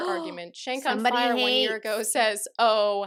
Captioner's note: gasps